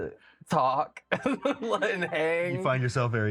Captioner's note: laughs